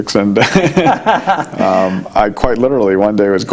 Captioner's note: laughing